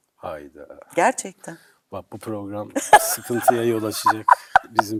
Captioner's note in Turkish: kahkaha